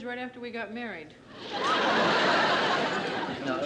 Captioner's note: laughter